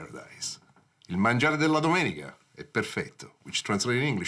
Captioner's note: speaks in foreign language